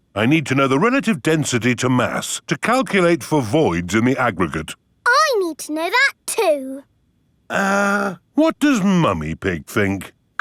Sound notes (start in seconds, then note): none